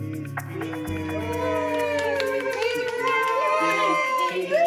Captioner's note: cheering